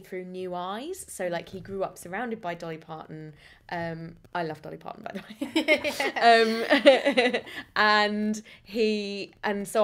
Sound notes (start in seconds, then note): 5.2 laughter